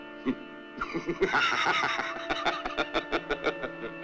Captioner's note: laughs